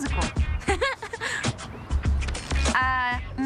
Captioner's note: chuckles